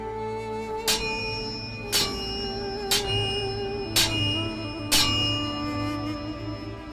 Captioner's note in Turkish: Müzik - Duygusal; Çekiç sesi; Müzik - Duygusal